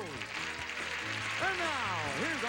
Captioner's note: audience applauding